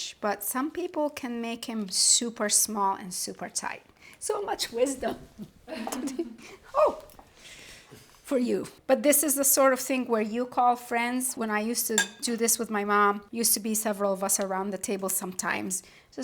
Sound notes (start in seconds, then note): 5.7 laughs softly